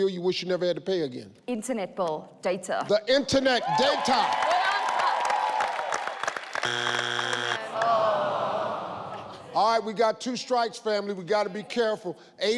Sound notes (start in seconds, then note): 3.5 audience cheers; 6.6 buzz; 7.6 audience sighs